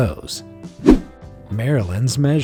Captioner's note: image whooshing